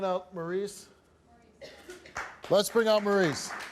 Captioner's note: woman's Voice; audience applauds